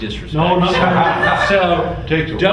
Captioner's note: all laugh